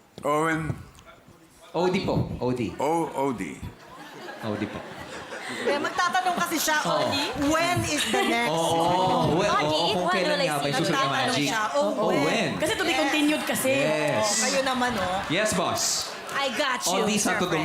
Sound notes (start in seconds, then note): 3.8 laughter